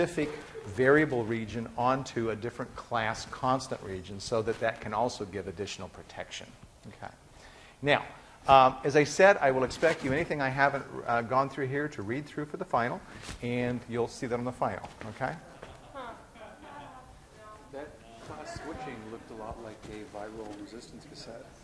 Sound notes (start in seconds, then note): 15.4 laughing sarcastically